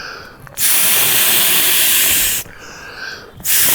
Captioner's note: blows air